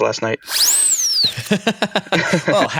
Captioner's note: celebratory swish